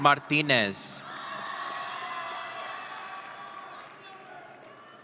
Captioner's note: audience cheering